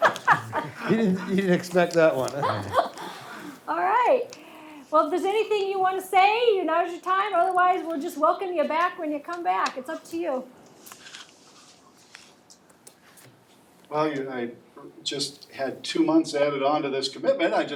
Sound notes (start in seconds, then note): 2.2 woman laughs